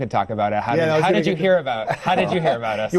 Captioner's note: laughs